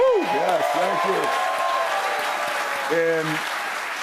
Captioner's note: cheers and applause